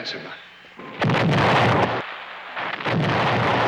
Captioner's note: booming